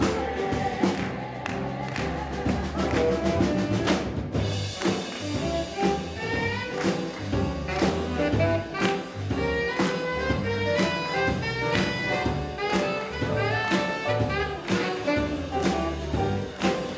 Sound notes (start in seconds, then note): 3.8 lively jazz music; 6.6 choir clapping rhythmically